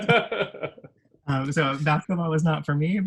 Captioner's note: laughs